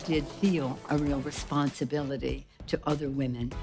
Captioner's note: cheers and applause